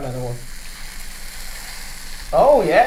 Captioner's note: bubbles fizzing